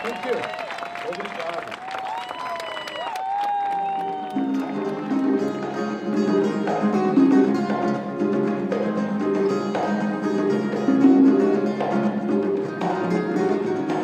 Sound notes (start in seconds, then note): 1.5 applause